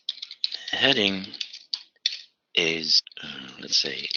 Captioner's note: typing